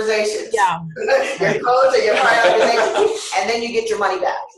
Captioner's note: laughter